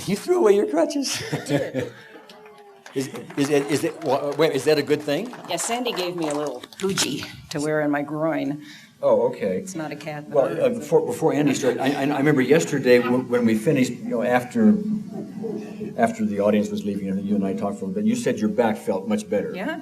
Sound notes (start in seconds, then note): 1.0 laughter; 1.9 applause